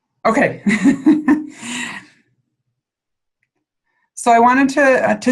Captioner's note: laughs